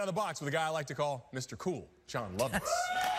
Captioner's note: cheering